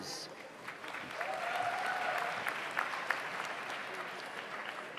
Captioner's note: audience applauds